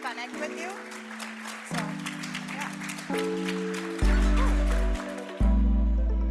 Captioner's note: applause